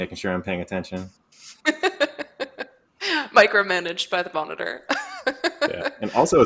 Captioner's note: laughs